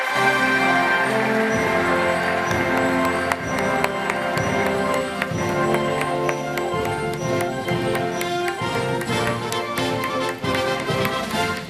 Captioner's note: applause